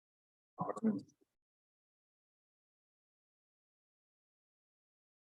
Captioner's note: board member speaking softly